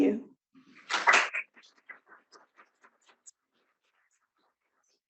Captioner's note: audience claps